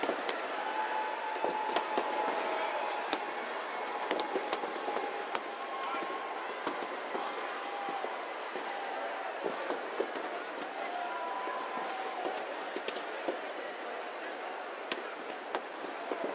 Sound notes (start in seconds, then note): 1.0 cheers and applause